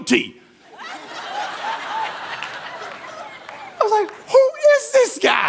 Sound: congregation laughing

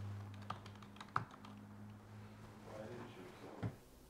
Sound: keyboard clacking

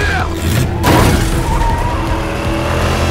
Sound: shouts in french

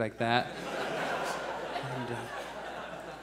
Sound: audience laughs

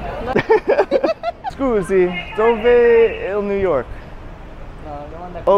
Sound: people laugh; speaking Italian

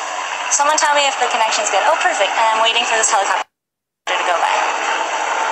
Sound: helicopter humming in background

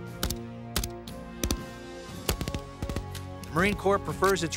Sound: gun shots

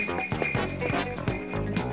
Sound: bells jingling

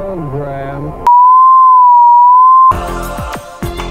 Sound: distorted sine wave

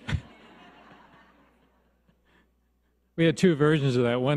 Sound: audience laughs

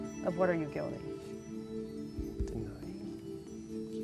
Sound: whispering

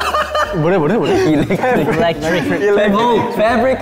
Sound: laughing while talking

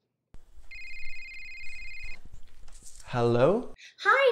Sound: phone rings

